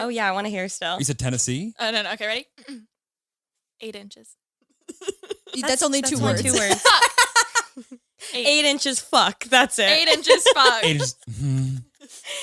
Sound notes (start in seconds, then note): 7.4 laughing